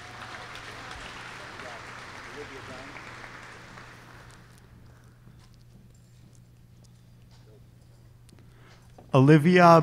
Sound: applause

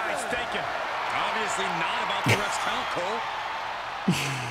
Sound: laugh

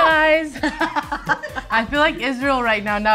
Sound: laughing

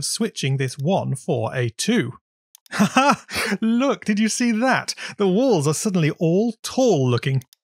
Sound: laughs

